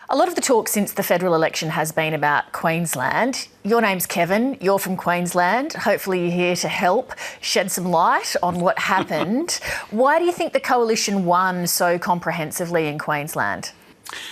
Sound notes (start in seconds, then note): 8.6 Kevin Rudd laughs